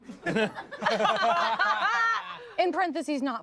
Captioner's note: everyone laughs